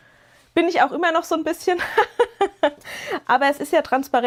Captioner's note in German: gelächter